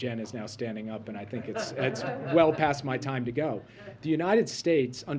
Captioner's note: laughter